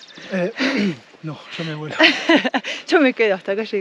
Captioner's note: laughs